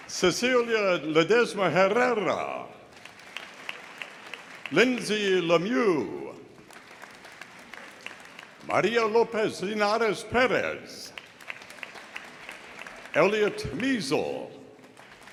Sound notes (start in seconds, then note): 2.8 audience applauding; 11.1 audience applauding